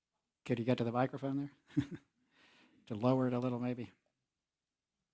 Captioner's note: laugh